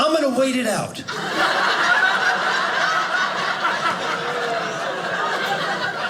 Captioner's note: audience laughing